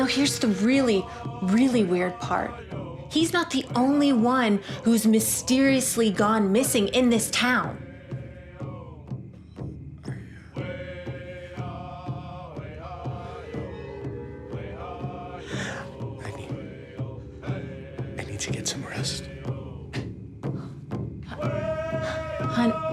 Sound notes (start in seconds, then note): 9.3 drums beating; 9.3 voices chant; 20.2 drums beating; 20.2 voices chant